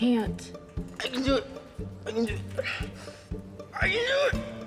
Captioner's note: French